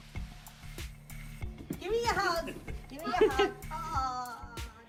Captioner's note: laughter